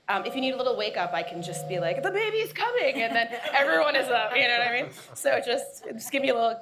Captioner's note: laughter